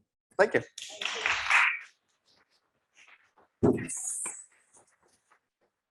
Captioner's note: audience applauding